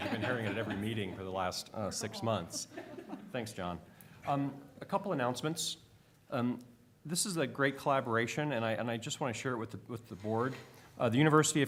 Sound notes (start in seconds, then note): 2.1 laughter